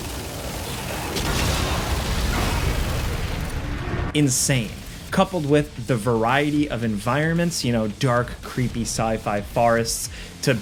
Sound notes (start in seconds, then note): 0.0 explosion blasting